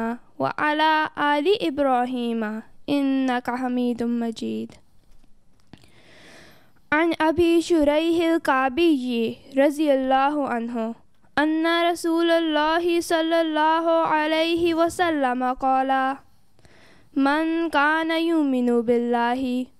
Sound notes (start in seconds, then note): 6.8 Arabic